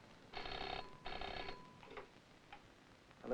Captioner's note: phone ringing